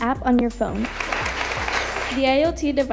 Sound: audience applauding

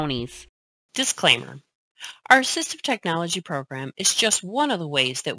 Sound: voiceover

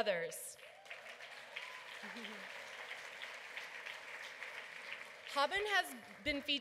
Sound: applause

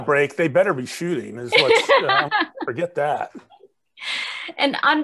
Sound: laughing

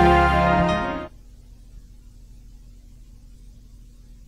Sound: none

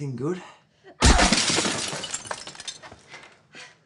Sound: window crashing; heavy breathing

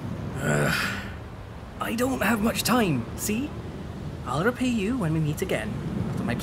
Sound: sigh

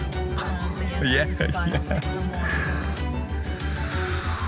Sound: laughing

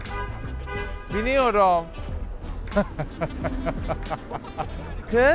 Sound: brutally laughs

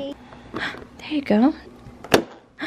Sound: gasp; pop

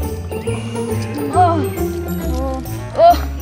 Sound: both Thieves Groan

